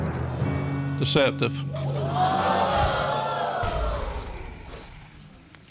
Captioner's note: audience gasps